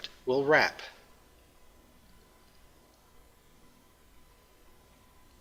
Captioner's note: pause